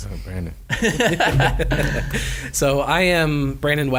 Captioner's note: laughing